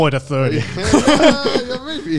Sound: everyone laughs

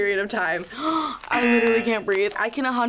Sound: gasping

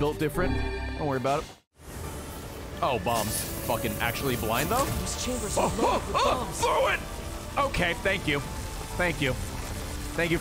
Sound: screams

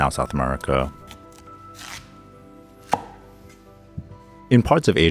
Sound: knife chopping

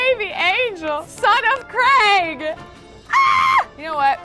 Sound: squeals

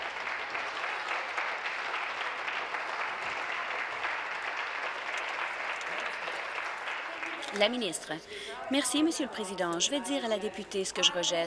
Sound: applause

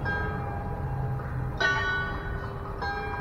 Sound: clock strikes 11

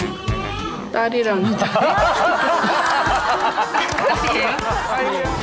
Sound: trying not to laugh

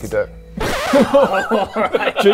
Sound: record scratch; stunned laughs

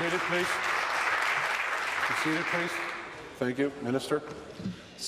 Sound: applause

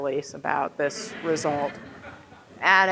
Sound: audience laughing

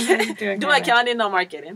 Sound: laugh

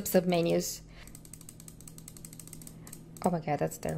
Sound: mouse clicking

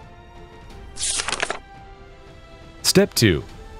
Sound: paper rustling

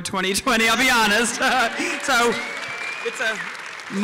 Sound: applause

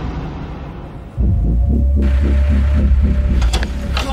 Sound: ominous sound

